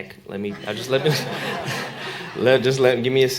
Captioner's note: laughter